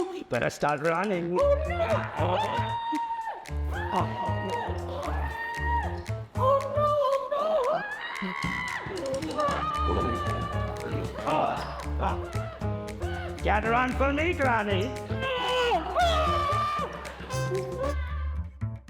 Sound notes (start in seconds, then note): 1.2 playful music; 1.4 Granny screams; 1.5 screams; 15.1 granny screams; 18.6 dramatic music